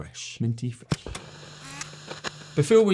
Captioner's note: projector zooming